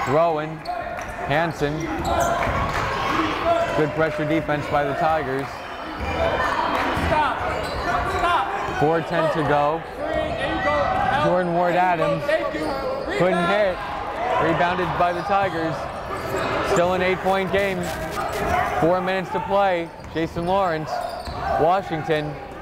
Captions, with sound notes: Throwin', Hansen, good pressure defense by the Tigers. (yelling) 4:10 to go, Jordan Ward-Adams, couldn't hit, rebounded by the Tigers, still an eight point game. Four minutes to play, Jason Lawrence, Washington,